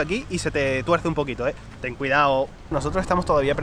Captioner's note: spanish Accent